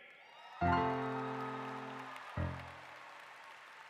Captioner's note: cheering